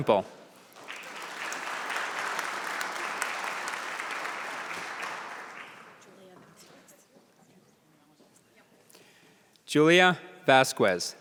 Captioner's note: applause